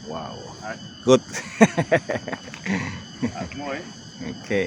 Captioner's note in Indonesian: tertawa